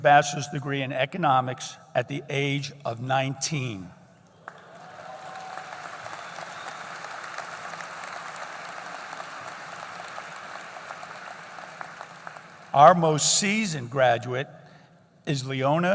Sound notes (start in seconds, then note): 4.4 applause